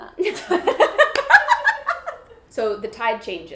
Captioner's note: laughs